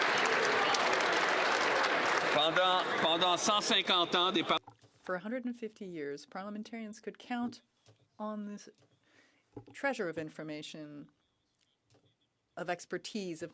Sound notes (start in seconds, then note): 6.4 speaking French